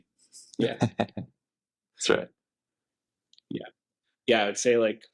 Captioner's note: laughter